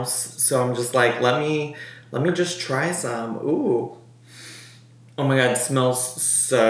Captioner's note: sniffs